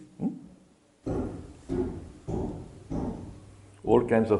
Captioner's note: noise of hammering in the background